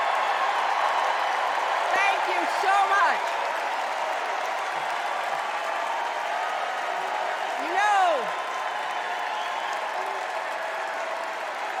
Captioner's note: cheers and applause